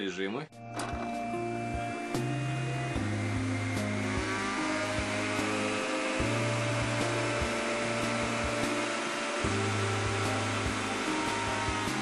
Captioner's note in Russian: слышен звук работы соковыжималки